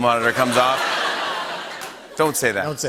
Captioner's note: laughter